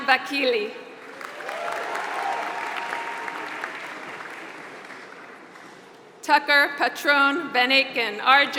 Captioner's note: applause